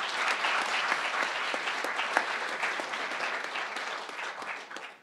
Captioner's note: crowd applauding